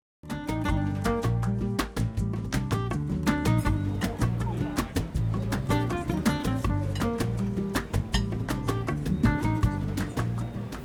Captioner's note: ambient interior cafe sounds of people eating, chatting, drinking coffee